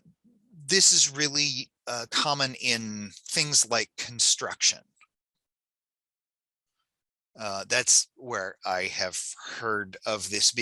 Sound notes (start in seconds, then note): none